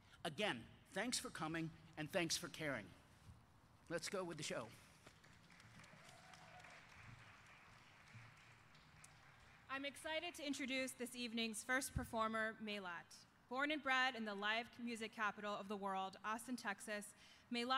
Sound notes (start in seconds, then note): 5.1 audience applauding